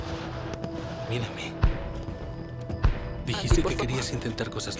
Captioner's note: fireworks popping